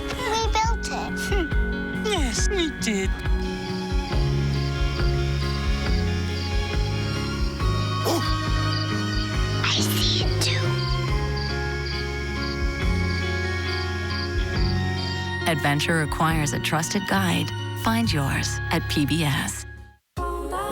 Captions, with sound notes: - We built it. - Yes, we did. (Clifford barks) - I see it too. - [Voiceover] Adventure requires a trusted guide, find yours at PBS.